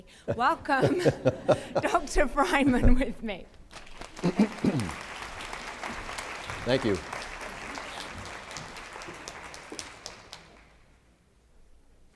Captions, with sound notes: Welcome Dr. Friman [laughter] with me. [ Applause ] >> Thank you.